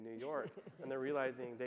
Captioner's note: laughing